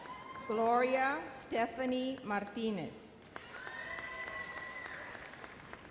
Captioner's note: audience applauds